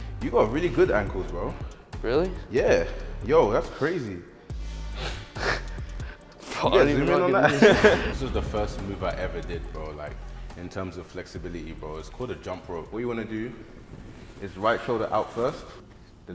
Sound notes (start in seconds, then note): 5.4 both chuckling